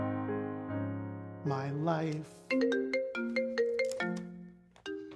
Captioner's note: phone ringing